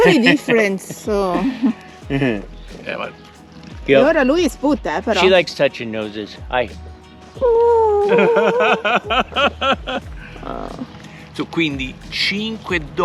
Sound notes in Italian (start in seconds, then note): 10.2 Risate